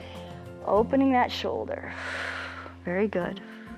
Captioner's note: exhales